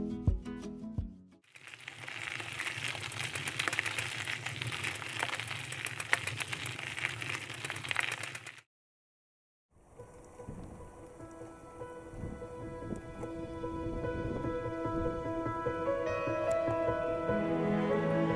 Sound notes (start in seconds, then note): 1.5 bike wheel clicking; 11.0 pensive music